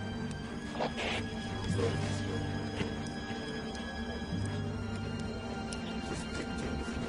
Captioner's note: помехи